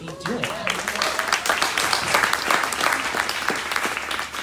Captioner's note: crowd applauding